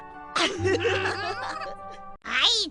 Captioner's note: giggle